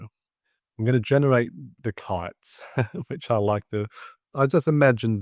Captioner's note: chuckles